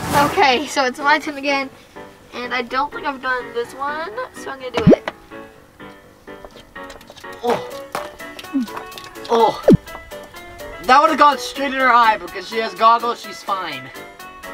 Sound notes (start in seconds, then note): 4.8 special effects blooping; 7.1 pickles splashing